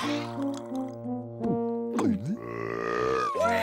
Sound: burping

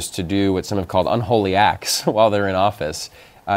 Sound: laughter

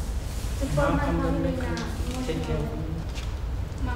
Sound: talking

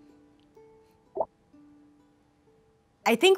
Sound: text bloops

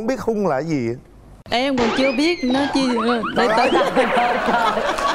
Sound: laughing

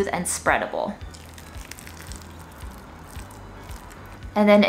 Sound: beans squishing

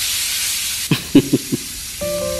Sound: chuckles

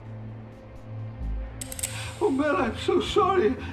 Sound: gun cocks

